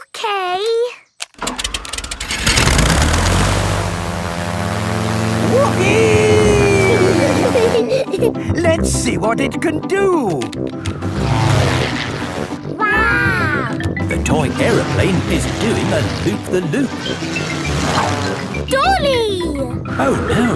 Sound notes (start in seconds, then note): 1.4 plane humming